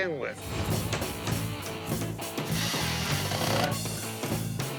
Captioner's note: pounding and drilling